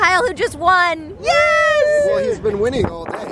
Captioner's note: cheering